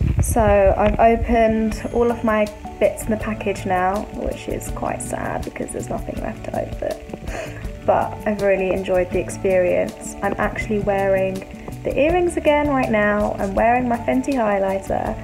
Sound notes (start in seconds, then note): 7.2 sniffles